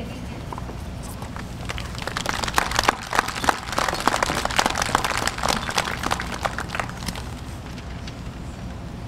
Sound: applause

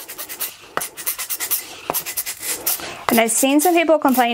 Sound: lint roller squeaking

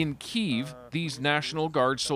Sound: speaking alternate language

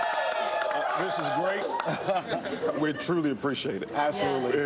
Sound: cheers

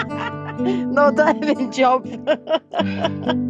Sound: laughs

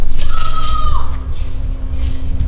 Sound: kiai; metal clanging

